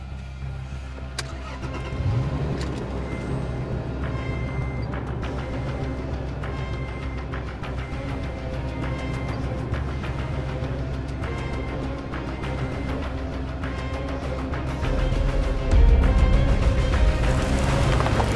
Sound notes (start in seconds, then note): 0.4 car starting; 14.7 music intensifies